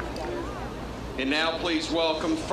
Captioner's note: applause